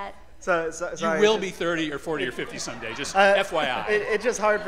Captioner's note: laughter